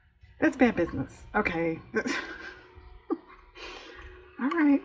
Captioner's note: laughs